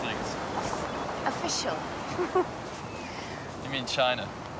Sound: chuckles

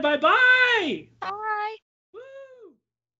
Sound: cheers

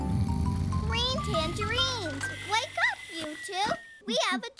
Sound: yawning

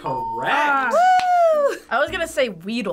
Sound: groaning

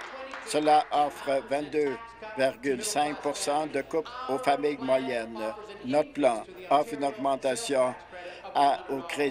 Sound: applause

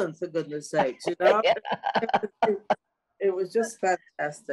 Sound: all laughing

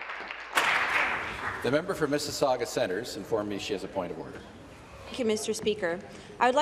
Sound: applause

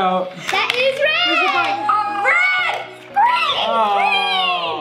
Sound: yelling

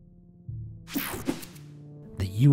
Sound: slide swooshing

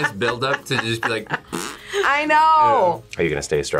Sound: laughs; imitates fart

